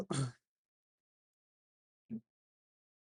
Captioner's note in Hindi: गला साफ़ करने की आवाज़